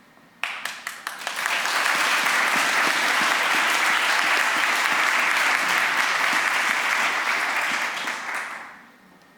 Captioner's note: applause